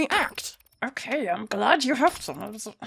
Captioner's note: through his teeth; mutters quietly